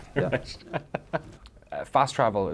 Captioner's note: laughing